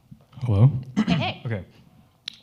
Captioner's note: clears throat